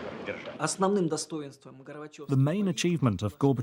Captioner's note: speaking Russian